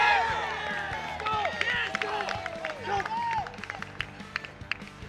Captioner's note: cheering